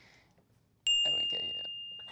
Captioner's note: bell rings